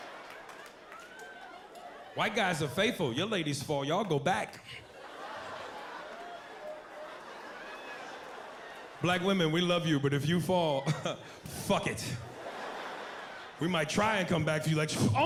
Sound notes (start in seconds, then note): 5.4 audience groans